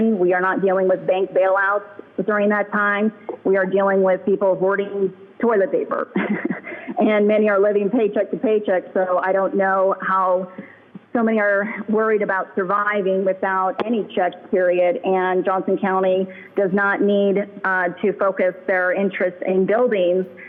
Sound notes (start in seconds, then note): 5.9 chuckling